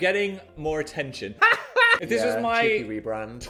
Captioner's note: laughing